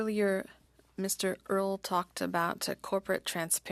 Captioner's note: speaking French